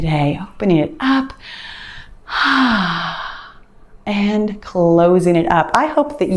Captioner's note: sighs